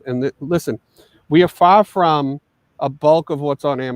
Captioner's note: none